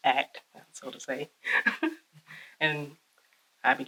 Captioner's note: chuckles